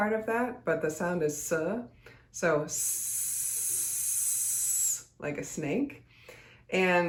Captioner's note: hisses